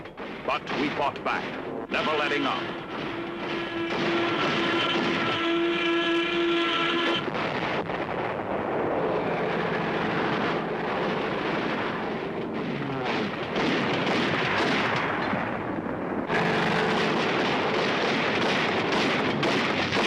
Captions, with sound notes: but we fought back, never letting up. (artillery firing) (artillery firing) (guns firing)